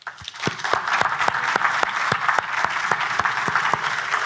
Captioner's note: everyone applauding